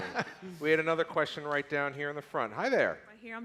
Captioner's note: laughter